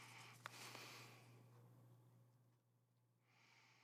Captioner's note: Ava inhales; Ava exhales